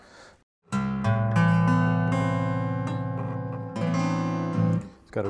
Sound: deep resonant sound

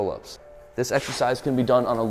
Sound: air whooshing

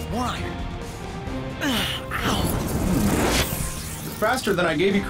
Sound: groans

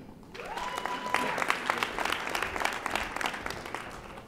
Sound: audience applauding

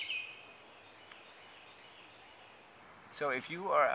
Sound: Carolina wren singing

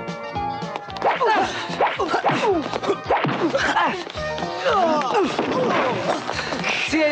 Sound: men fighting; fists hitting

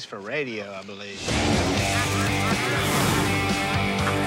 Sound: quacking

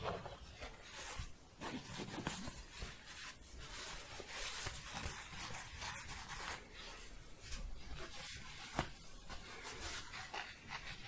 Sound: shuffling and scratching

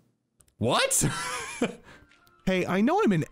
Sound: laughs

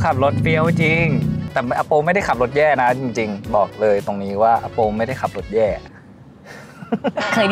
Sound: laugh

